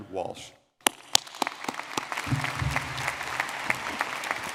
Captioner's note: audience clapping